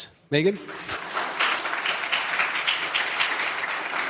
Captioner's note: applause